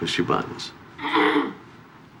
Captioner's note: clears throat